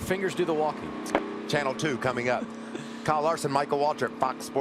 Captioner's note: sound of racetrack